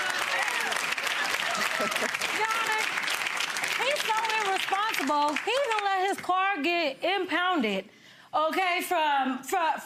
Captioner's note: audience clapping; audience laughing